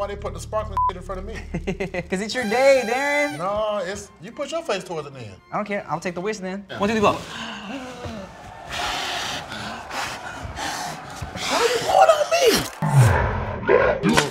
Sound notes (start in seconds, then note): 1.4 laughs; 7.2 blows